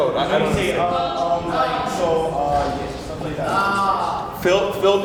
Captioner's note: crowd talks over each other